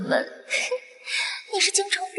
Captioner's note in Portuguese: risos